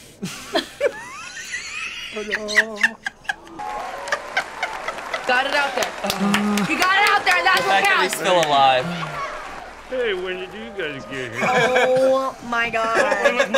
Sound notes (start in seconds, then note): 0.2 both laugh